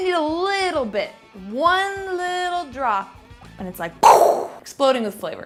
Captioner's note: imitations explosion